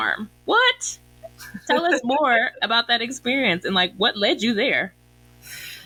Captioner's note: laughs